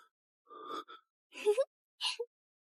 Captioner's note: chuckles